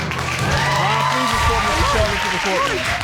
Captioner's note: audience cheering